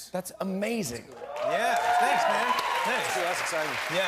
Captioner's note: cheers and applause